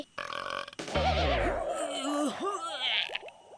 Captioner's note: belching; groaning